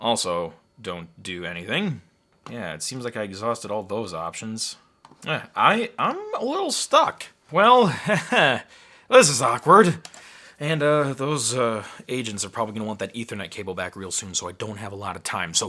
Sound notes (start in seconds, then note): 7.8 chuckling